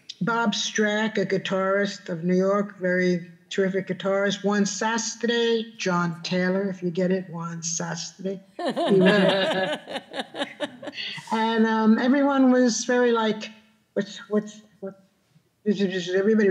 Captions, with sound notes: Bob Streck, a guitarist of New York, very terrific guitarist. Juan SASZ-LIHK, John Taylor, if you get it. Juan SASZ-LIHK. (group laughing) And everyone was very like, what, everybody was buzzing.